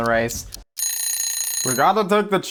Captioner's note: alarm ringing